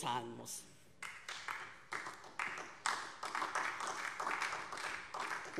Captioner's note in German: Beifall DIE LINKE und vereinzelt SPD